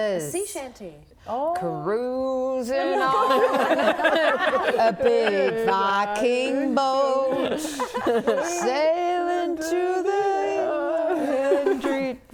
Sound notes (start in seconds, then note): 2.9 laughing